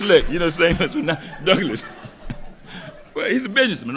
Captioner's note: laughs